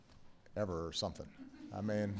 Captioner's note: laughter